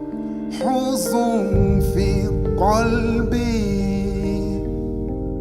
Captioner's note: Arabic